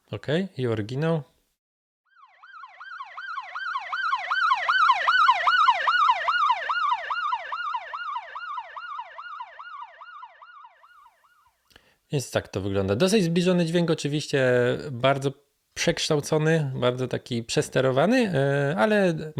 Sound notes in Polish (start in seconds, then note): 2.0 Oryginalny dźwięk syreny